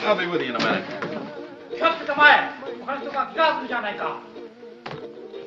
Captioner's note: man yells in japanese